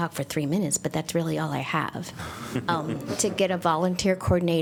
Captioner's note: laughter